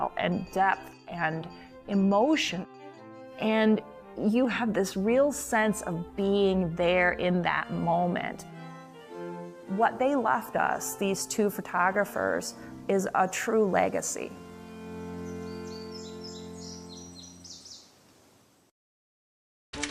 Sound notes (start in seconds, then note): 15.4 birds chirping